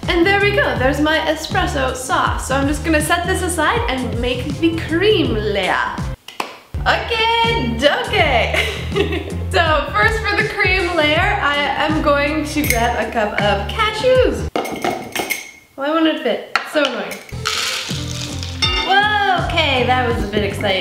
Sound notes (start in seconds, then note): 6.3 clapping; 8.6 laughs; 17.3 cashews spilling